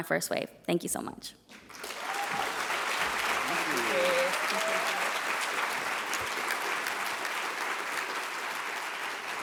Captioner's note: applause